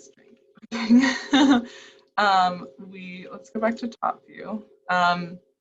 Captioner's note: laughs